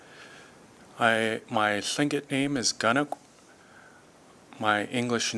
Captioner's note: speaking tlingit